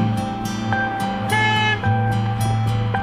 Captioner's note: car horn